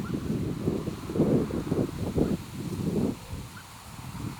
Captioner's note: wind blowing